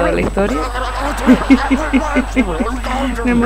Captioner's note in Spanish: risas